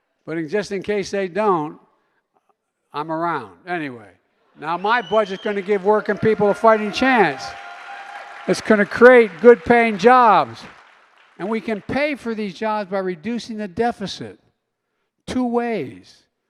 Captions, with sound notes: But in -- just in case they don't, I'm around. Anyway. (Applause.) Now, my budget is going to give working people a fighting chance. (Applause.) It's going to create good-paying jobs. And we can pay for these jobs by reducing the deficit two ways.